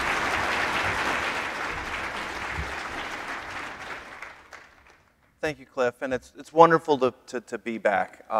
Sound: applause

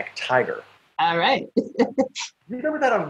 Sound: laughs

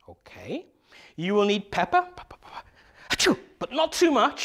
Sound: the teacher makes the sound of sneeze

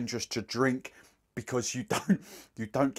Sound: laughs

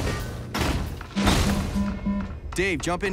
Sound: guns firing; alarm ringing

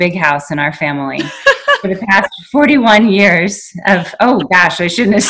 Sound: laughing

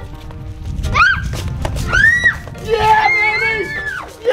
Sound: screaming

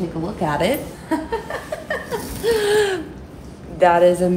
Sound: laughs

